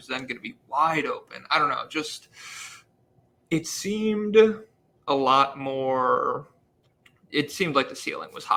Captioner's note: sighs